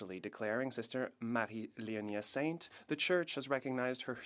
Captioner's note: speaking French